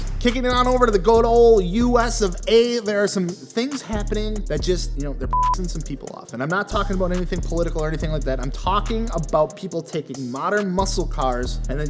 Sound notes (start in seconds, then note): 5.3 beep